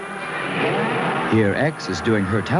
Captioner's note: roaring